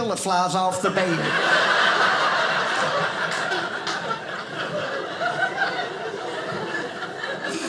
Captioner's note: audience laughing